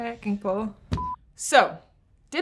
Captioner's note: beep